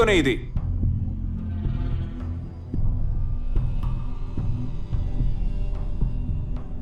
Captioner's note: personal assistant whispers